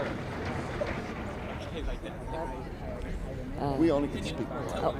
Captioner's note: indistinct chatter